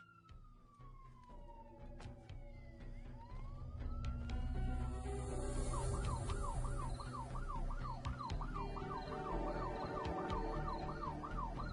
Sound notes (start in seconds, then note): 5.6 siren blaring